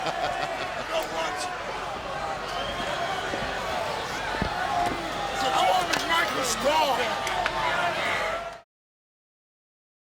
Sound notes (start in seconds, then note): 0.0 people laughing; 0.0 crowd cheering; 4.9 wrestlers faintly speaking